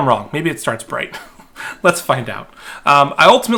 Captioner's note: chuckling